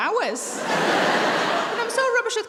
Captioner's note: audience laughing